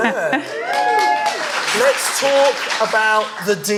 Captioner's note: audience cheering and clapping